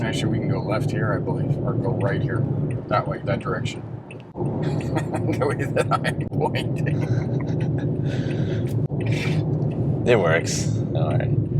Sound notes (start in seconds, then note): 4.7 laughing